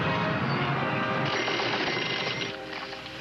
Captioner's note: machine dinging